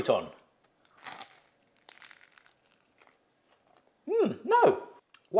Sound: bread crunching

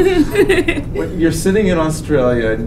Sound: laughs

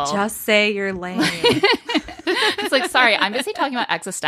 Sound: laughing

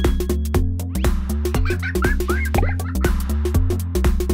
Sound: laughter

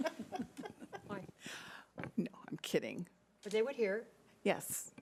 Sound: laughing

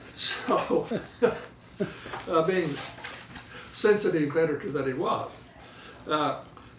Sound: laughing; laughs

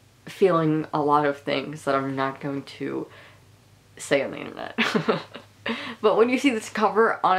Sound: laughing

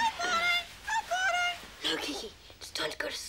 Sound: parrot squawking

